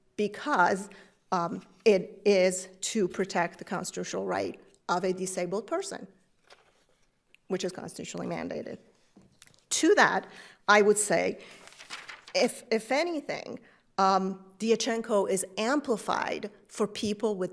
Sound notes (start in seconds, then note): 11.4 paper rustling